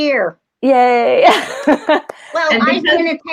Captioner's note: laughs